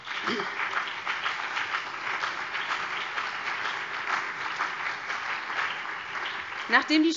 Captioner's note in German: Beifall BÜNDNIS 90/DIE GRÜNEN und vereinzelt CDU